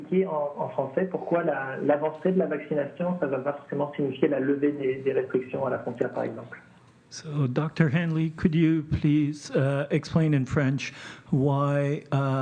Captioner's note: speaking French